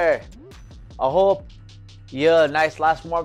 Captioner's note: foreign language